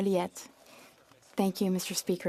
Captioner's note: speaking French